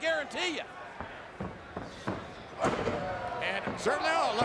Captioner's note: footsteps thumping